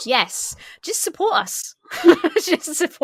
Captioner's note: laughs